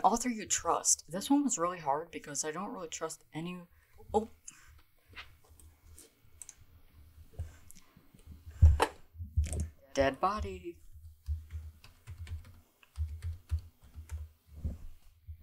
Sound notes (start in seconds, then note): 9.8 singing; 11.2 keyboard typing